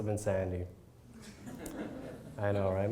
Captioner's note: crowd laugh